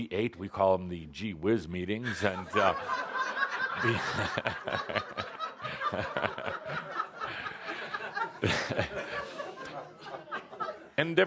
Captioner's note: lots of laughter, Kuthumi chuckling